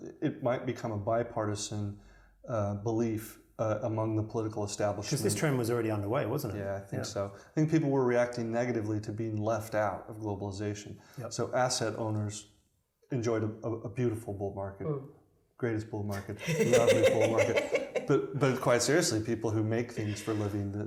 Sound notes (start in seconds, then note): 16.1 laughing